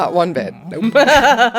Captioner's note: laughter